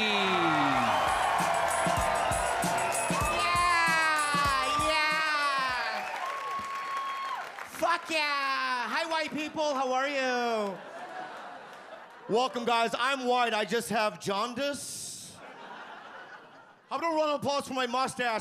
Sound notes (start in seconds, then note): 0.0 audience cheer and applaud; 10.6 audience laughs; 15.4 audience laughs